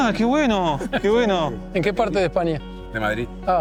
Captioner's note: in Spanish